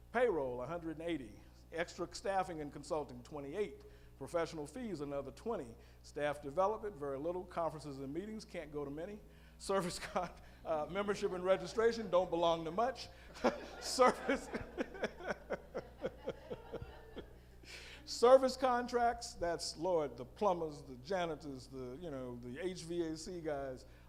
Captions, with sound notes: Payroll, 180, extra staffing and consulting 28 professional fees another 20, staff development very little, conferences and meetings, can't go to many service comp, membership and registration, don't belong to much, (laughing) (all laughing) Service contracts, that's lord, the plumbers, the janitors, you know, the HVAC guys,